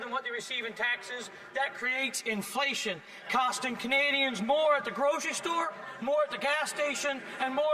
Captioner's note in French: voix de l'interprète